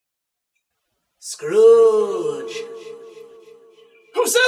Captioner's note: echoing voice